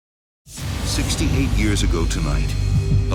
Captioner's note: voiceover